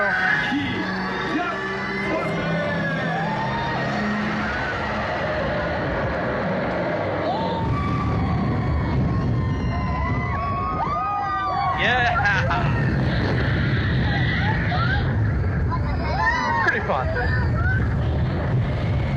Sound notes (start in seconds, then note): 0.2 characters talking over speaker; 6.9 riders screaming